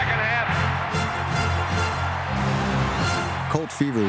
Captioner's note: crowd cheering